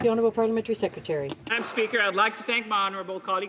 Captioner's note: some Applause